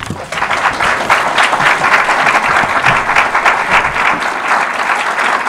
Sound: audience applause

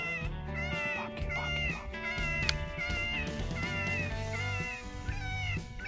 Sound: whispering

